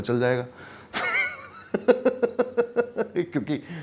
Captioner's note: laughs